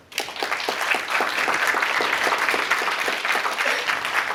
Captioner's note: applause